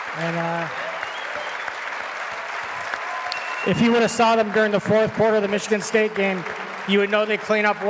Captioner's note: applause